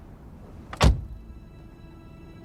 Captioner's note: door clicking; dramatic orchestral music